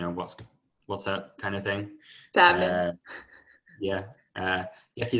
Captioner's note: laughter